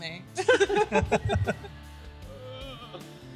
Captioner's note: laughter